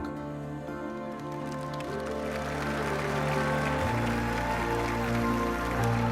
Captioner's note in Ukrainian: оплески